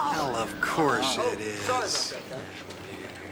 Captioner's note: banging, Chang moans